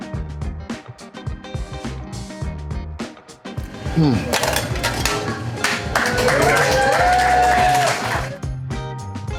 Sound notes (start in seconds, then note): 5.6 crowd applause